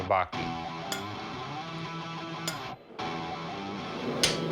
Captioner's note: hammering